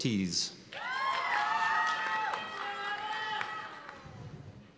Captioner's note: cheers and applause